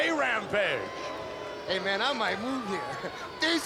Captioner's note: laugh